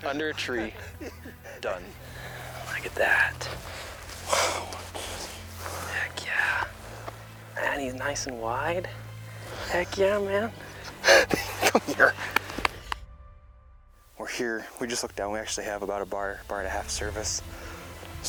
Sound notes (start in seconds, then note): 10.7 chuckles